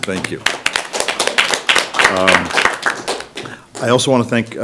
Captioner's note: applause